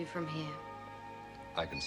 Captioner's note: footsteps